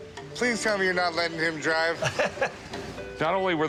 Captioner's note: chuckles